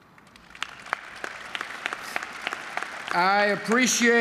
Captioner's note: applause